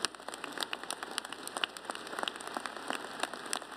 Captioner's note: applause